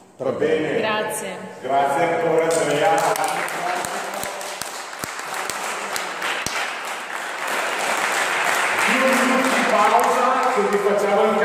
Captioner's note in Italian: Applauso